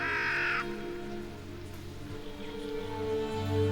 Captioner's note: bird cawing; gentle music